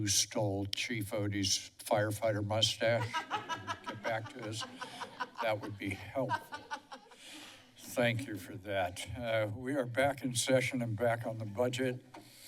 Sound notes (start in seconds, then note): 2.9 laughter